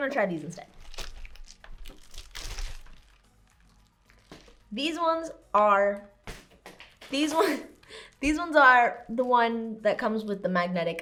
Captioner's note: package Opening